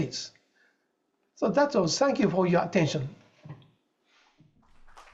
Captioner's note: applause